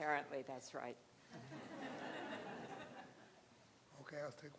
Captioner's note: crowd laughing